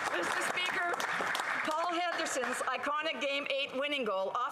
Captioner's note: applause